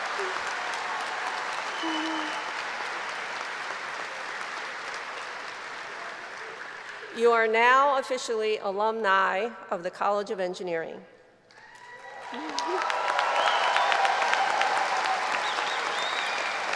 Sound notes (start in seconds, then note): 1.8 applause